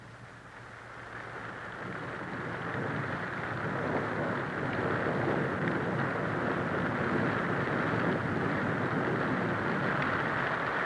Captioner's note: rainfall